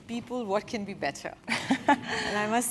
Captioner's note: laugh